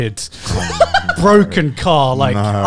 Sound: laughing

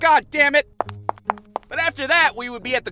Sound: footsteps fade

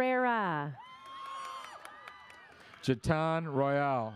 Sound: audience cheers

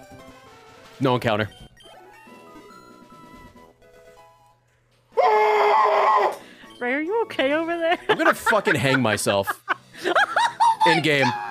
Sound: screams

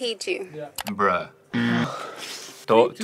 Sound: buzzer rings

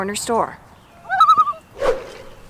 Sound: loon call

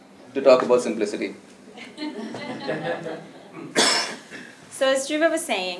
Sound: laugh

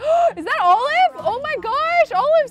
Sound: gasps

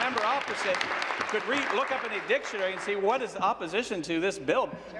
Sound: applause

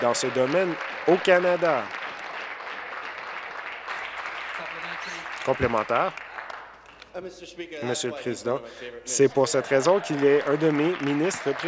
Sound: applause

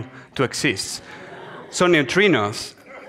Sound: audience laughs

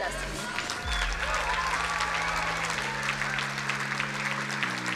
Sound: crowd cheering and applauding; ambient music

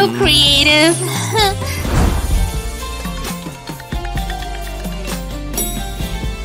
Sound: giggling

